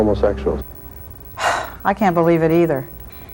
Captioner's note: sighs